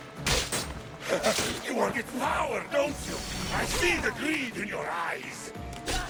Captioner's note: laugh